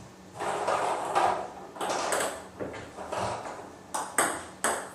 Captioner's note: balls ping pong hitting continues